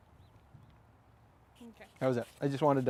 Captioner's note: speaking quietly